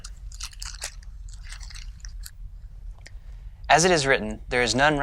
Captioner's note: turning pages